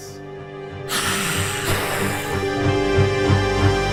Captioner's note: vampire hisses